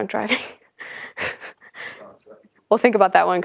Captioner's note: laugh